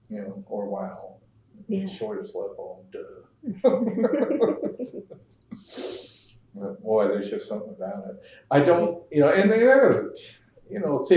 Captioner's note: laughter